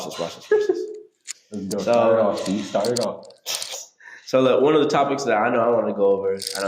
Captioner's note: laughing